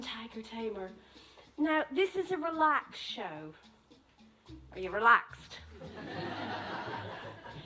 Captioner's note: laughter